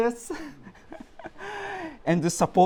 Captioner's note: laughing